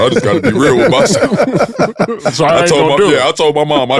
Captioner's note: group laughs